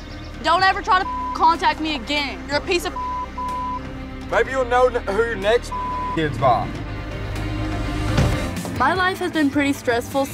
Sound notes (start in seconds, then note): 2.8 beep; 6.0 beep; 8.0 dramatic music